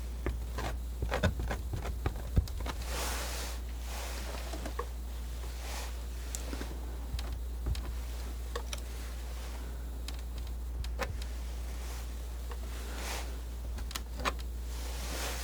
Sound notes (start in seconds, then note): 6.4 scratching